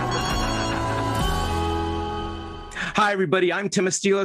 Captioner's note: phone ringing